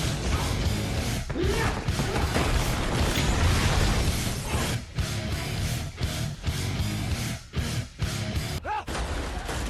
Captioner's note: Tom grunts